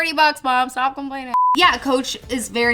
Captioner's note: beep